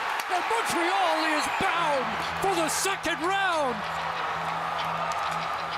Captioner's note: cheers and Applause